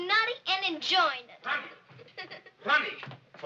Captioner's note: giggles